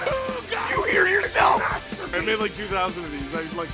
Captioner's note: Harry potter screaming; screaming